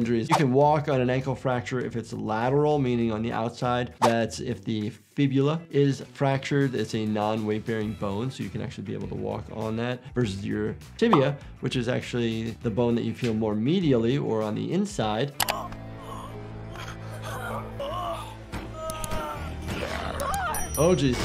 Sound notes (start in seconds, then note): 16.6 man gasps; 16.7 man grunts; 20.1 woman screams